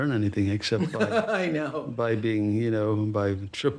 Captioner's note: laughs